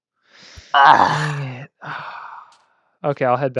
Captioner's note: sigh